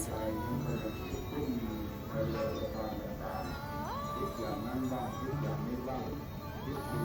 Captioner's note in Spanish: Sonido de campanas y gong